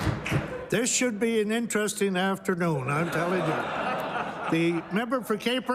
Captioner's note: laughter